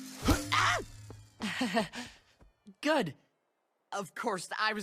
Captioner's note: awkward laugh